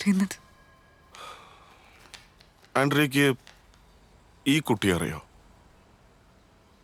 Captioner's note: sigh